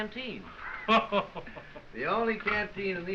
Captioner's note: laughing